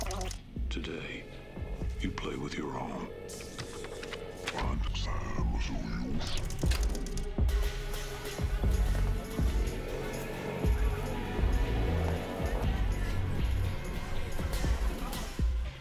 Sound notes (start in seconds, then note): 3.2 rewinding slowly